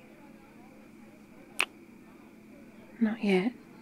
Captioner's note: kiss